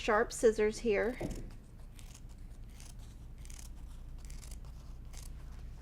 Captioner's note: scissors snipping